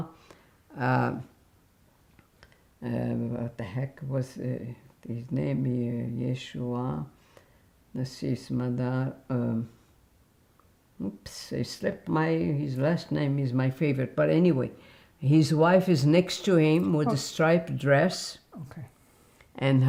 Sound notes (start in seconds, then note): 8.0 mumbling